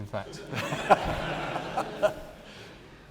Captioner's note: laughter